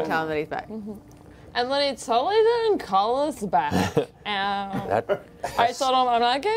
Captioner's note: slurring